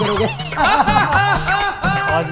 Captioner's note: Laughs